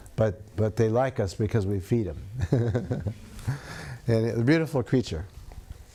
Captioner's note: laughs